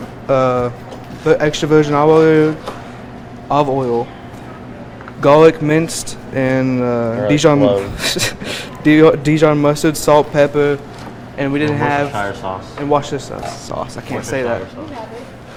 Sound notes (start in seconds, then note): 7.6 cook laughs